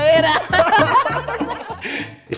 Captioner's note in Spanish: ríen jocosamente